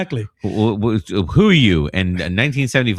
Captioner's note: uh